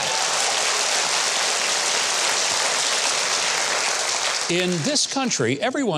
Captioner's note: audience applauds